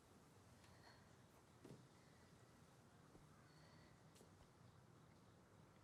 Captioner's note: Solene breathing heavy